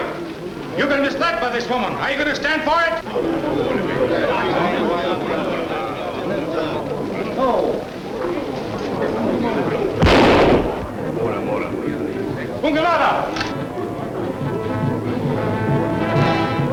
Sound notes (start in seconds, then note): 3.4 men muttering; 10.0 shot fires; 12.9 speaking in a foreign language